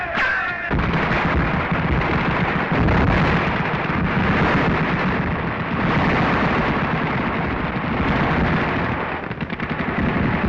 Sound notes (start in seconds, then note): 0.8 firing